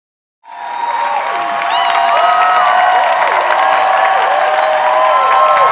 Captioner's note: audience applauding and cheering